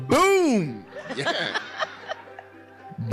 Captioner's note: laughing